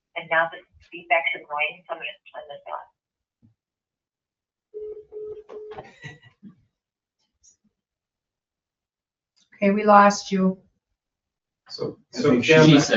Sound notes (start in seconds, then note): 4.7 phone beeping; 5.7 laughs